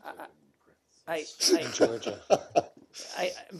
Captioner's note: laughter